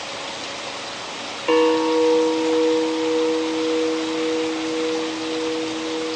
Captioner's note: chime